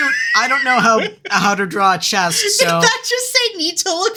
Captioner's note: laughing